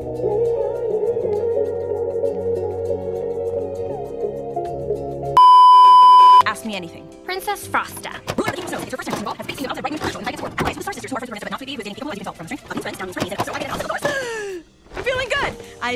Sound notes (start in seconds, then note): 8.3 VHS fast forward; 14.0 gasp